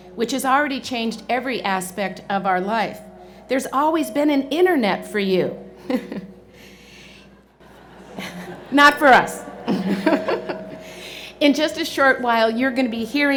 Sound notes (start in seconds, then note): 7.6 laughter